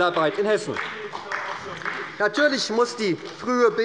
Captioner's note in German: Beifall bei der SPD